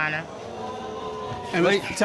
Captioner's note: audience exclaiming